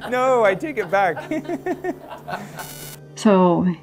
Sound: nervous laughter

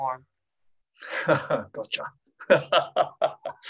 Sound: laughs

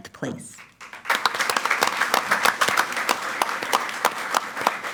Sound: audience applauds

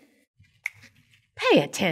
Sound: snap

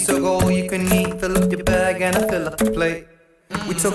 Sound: mmmm

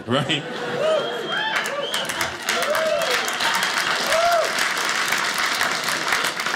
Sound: audience applauding

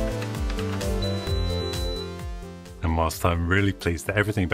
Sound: printer beeps

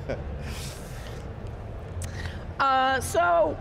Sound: laughs

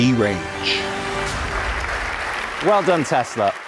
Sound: audience applauding

